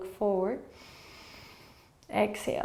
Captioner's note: inhaling